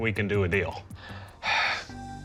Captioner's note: sighs